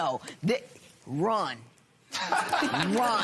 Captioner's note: laughter